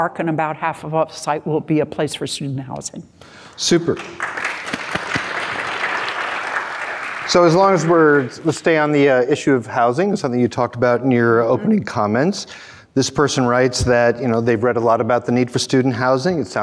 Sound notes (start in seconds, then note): 3.7 crowd applauding